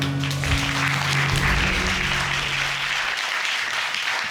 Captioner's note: all clapping